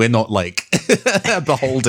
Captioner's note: laughs